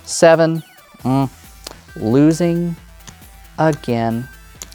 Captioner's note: tokens clattering